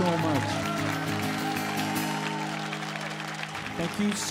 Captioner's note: audience applauds and cheers